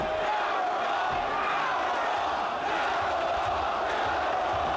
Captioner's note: crowd chants "Powerbomb"